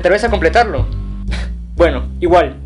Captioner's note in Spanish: sonido burlón